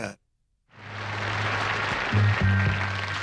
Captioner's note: crowd applause